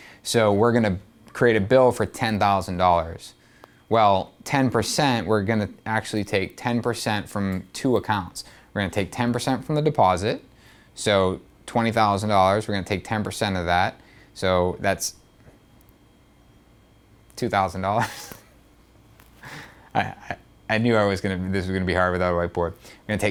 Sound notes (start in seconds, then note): 18.0 laughing